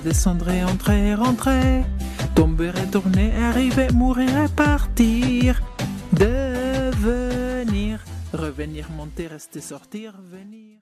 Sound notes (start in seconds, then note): 6.1 tramp